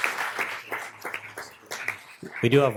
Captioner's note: applause